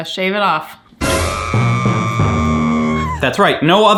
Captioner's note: dramatic music; person screaming